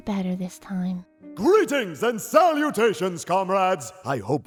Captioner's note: deep noble voice